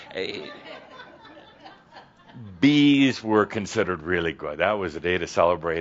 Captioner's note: some chuckles